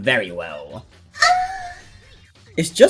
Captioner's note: moans cutely